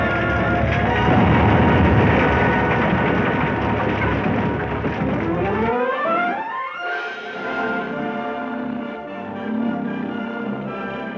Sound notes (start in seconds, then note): 0.1 explosion booming; 3.9 adventurous music; 3.9 lion purring and roaring